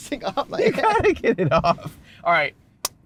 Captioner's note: laughter; clap